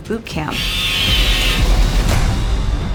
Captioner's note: saw whirring; music swells